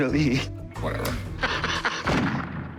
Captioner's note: laughs; gunshot